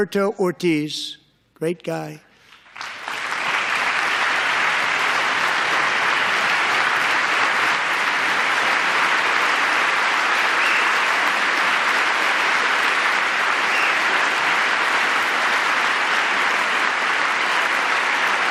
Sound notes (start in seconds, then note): 6.1 applause